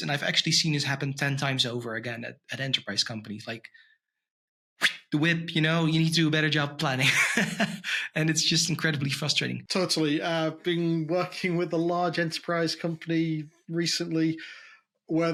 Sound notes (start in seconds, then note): 6.9 chuckles